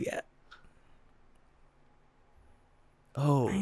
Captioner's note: confused silence